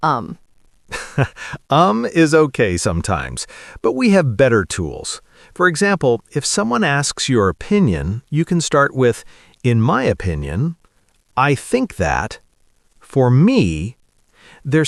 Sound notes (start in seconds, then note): 0.9 laughs